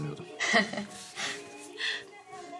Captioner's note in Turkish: Gülüşmeler